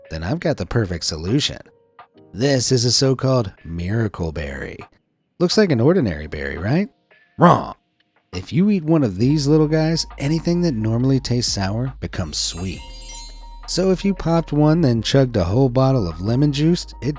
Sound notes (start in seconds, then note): 12.2 stars twinkling